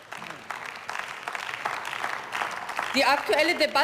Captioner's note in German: Beifall